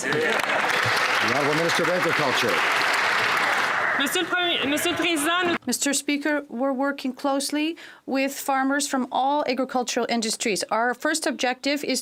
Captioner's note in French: voix de l'interprète